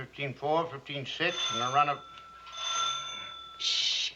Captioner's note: doorbell rings